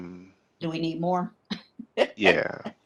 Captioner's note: laughs